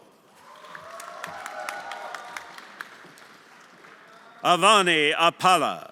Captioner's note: everyone applauding